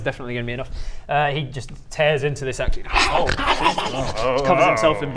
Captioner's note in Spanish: gruñendo y mordiendo